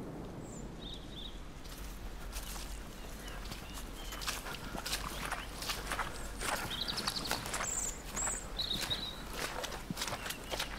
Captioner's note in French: chants d'oiseaux